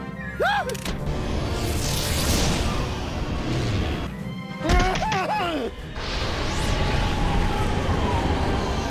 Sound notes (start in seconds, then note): 4.4 whimpers; 6.7 laser whirring